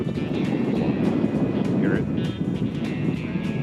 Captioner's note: wind blowing